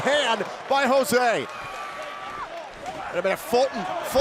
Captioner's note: crowd cheering